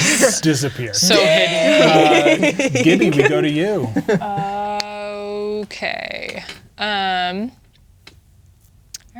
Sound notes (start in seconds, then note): 0.9 laughing